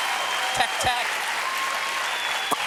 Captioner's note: cheers and applause